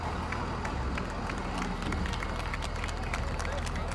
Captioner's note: applause